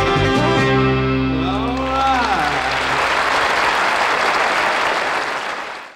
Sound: audience applauding

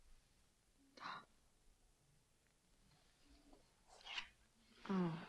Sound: Christy softly gasps

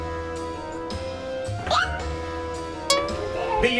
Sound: audio whistles; audio pops

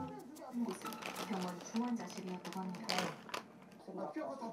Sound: rustling

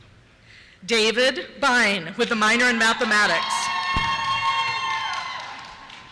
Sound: cheers

